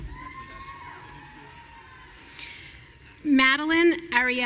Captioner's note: audience cheering